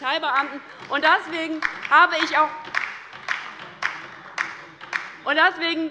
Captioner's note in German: Beifall bei der LINKEN